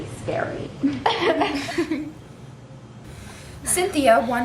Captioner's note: laughs